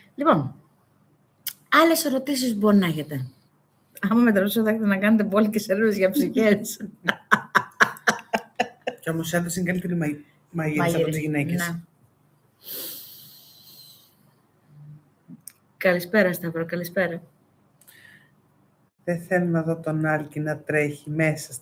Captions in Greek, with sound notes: Λοιπόν, άλλες ερωτήσεις μπορεί να έχετε άμα με τρετε να κάνετε μπόλικες έρευνες για ψυχές. [γέλια] Κι όμως άνθρωες είναι καλύτερη μαγειρεσα από τις γυναίκες. Ναι. Καλησπέρα Σταύρα. Καλησπέρα. Δε θέλω να δω τον Άλκι να τρέχει μέσα